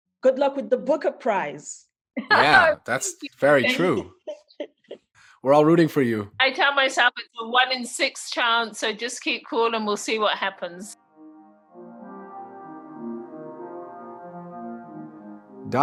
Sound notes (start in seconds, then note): 3.5 laughs